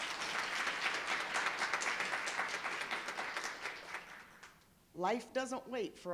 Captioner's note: applause